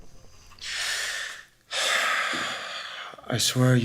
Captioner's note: deep sigh